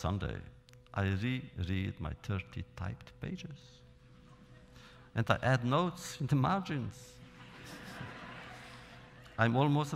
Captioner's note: laughter